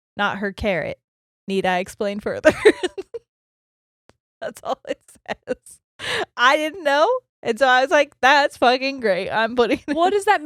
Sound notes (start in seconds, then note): 3.3 laughs quickly